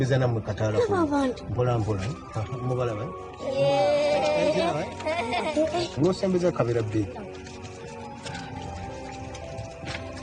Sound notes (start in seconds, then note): 3.8 giggling; 7.9 light dreamy music